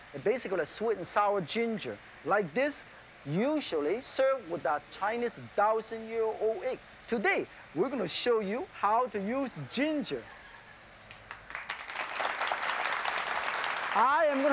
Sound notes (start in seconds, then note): 5.1 foreign language; 11.0 applause; 11.3 crowd